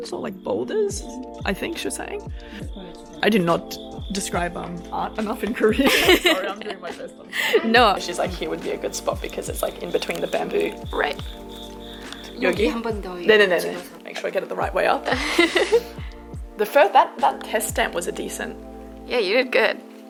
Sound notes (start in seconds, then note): 5.6 laughs; 12.5 speaking in foreign language